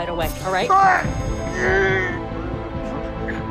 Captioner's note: groans